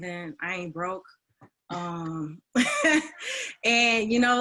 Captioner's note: laughs